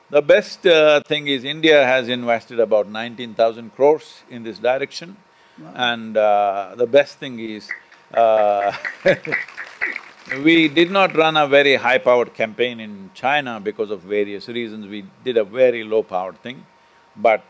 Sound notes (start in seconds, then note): 7.7 laughs; 8.2 applause